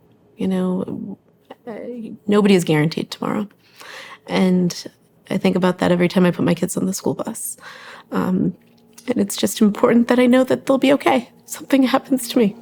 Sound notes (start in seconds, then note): 7.3 voice cracking